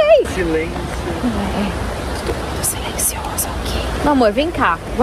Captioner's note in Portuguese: sussurra